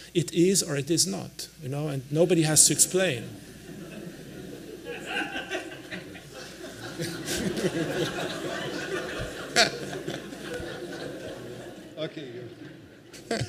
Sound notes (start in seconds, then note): 3.6 laughter